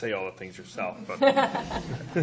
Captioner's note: laughter